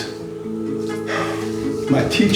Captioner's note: sighs